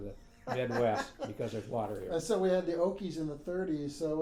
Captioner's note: laughing